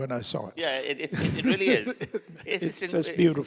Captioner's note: laughing